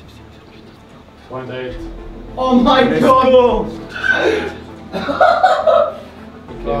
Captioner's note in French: rires